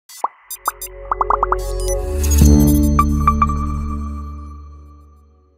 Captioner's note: bright electronic music; bubbles pop